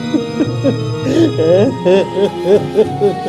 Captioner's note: crying